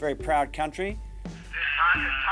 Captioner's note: on phone